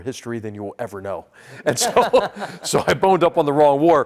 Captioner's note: laugh